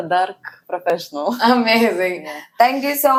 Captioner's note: laughs